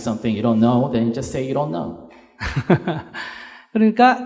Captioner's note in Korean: 스님 웃음